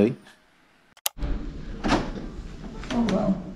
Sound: opening door

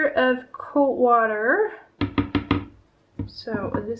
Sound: tapping of a wooden spoon on the plastic measuringjug

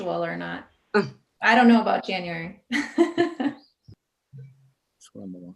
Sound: laughs

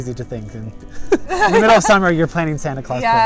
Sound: laughing

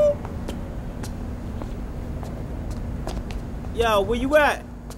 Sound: footsteps thudding

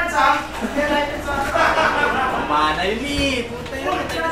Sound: laughter

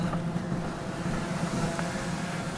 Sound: drone sound

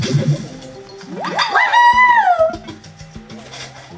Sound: cheering

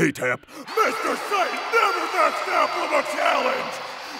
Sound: crowd cheers

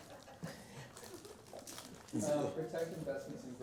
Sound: laughter

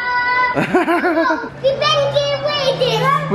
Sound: laughs

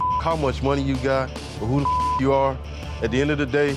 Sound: beep

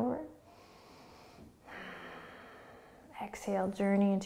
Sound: breathing

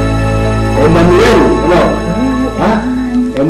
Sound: Celia cooing

